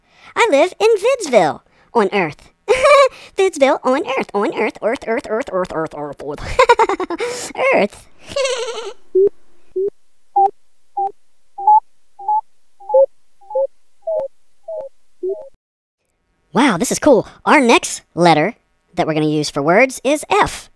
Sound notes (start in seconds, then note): 8.2 giggles; 9.0 beeps